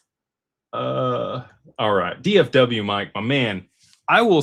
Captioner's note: snorts